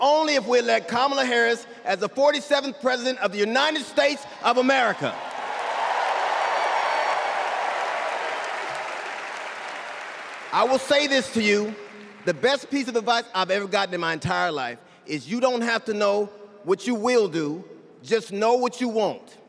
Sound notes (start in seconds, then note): 11.8 cheers and applause